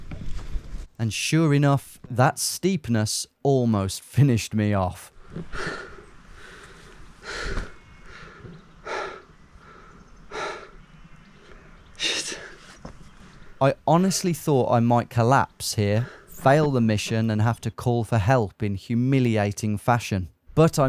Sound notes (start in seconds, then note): 5.7 huffs